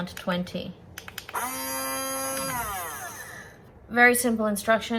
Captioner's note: two fast clicks and blender whirs again for a moment or two